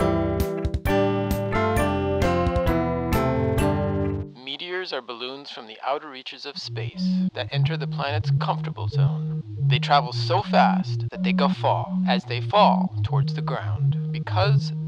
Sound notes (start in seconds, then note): 4.9 voiceover